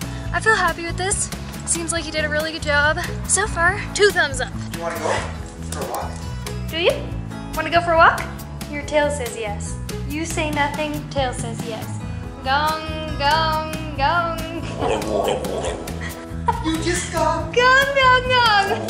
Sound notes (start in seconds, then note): 13.5 talking, saying "gong gong gong"